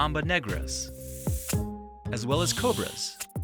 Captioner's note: light music; snake rattling; light music